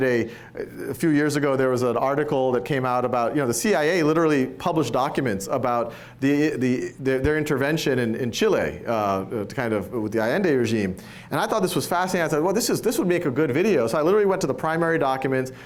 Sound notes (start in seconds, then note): none